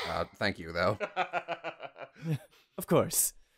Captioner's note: laughing